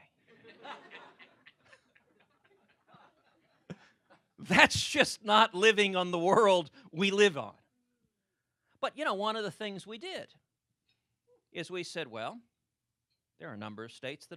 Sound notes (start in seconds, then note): 0.3 laughter